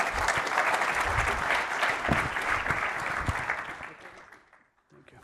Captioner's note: applause